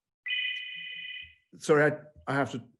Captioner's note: phone ringing